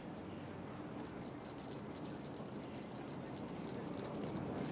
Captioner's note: jangling